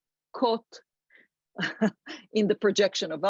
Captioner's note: laughs